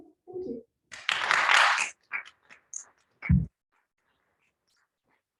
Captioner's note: audience clapping